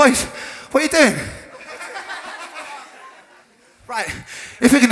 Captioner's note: crowd laughter